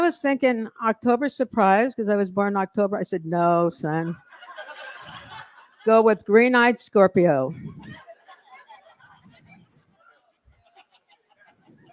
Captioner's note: laughter